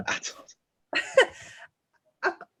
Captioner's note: laughs